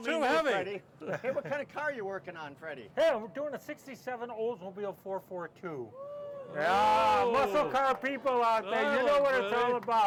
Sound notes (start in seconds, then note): 6.6 audience cheering